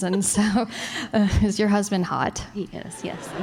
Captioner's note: laughter